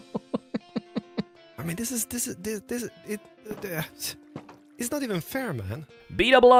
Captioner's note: laughing; stammers